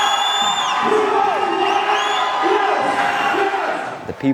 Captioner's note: crowd cheering